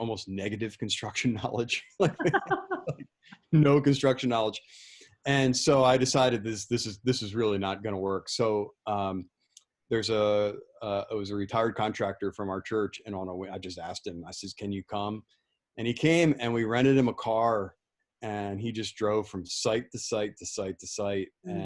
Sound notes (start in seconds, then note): 2.0 laughing